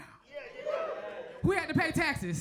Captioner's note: crowd cheers